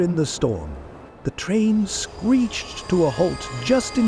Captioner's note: somber